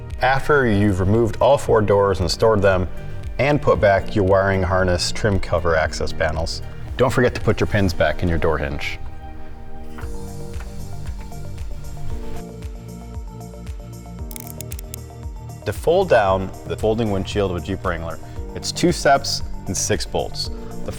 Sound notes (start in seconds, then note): 10.5 upbeat music; 14.3 words clicking